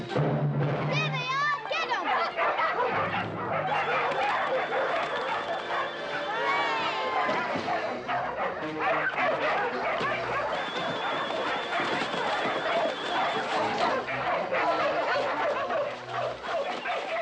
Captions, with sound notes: - There they are, get them! - [dogs barking] [all cheering]